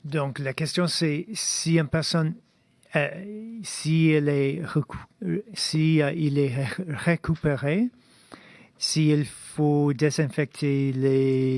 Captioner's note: speaking in French